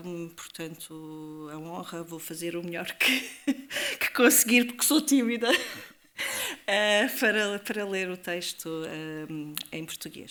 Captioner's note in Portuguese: risadas